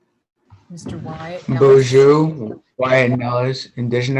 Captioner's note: non-english speech